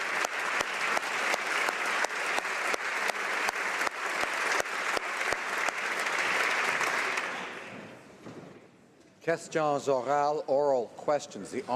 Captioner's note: applause